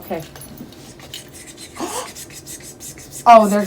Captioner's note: pretend whispering